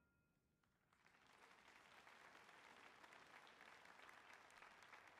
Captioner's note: audience applauding